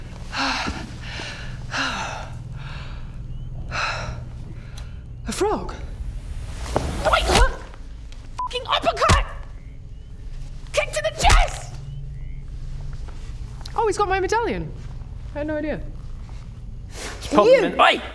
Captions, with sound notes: *exhaling* A frog Wait! *SMACK* Fucking uppercut! Kick to the chest! Oh he's got my medalion I had no idea Pop him in, oi!